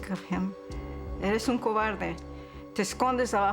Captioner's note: speaking spanish